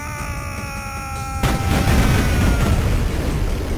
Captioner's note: bus driver screaming